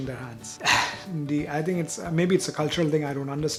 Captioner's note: sighs